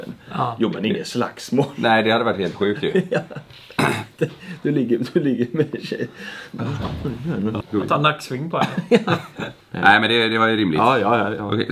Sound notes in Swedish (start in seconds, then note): 3.6 skrattar